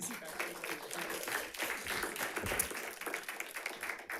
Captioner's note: audience applauds